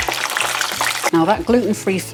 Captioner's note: sizzle